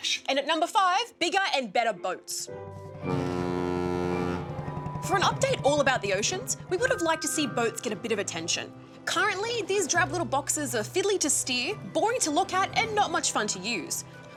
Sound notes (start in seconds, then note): 2.9 ship horn blares